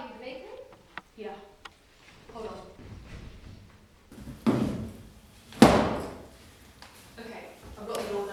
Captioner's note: chair bangs on floor